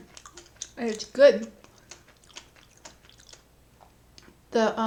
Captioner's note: chewing